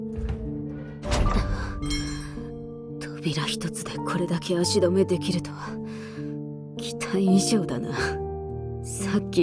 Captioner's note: sigh